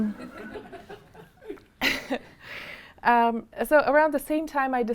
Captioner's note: audience chuckling